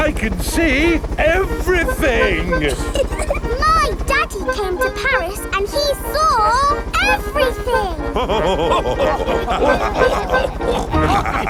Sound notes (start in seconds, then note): 3.2 chuckles; 6.9 all laughing